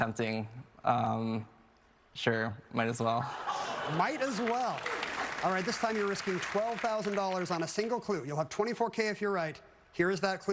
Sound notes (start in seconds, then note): 3.2 laughter